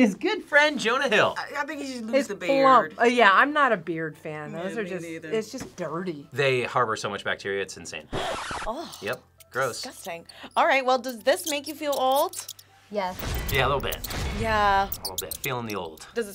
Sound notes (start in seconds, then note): 8.2 record scratches